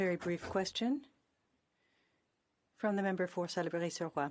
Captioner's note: speaking in French